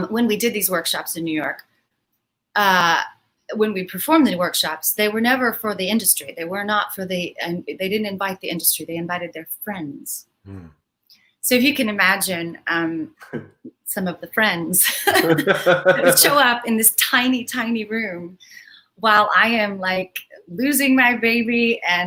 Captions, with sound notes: when we did these workshops in New York, when we performed the workshops, they were never for the industry, they didn't invite the industry. They invited their friends. So you can imagine some of the friends that would show up. (laughs) In this tiny, tiny room while I am loosing my baby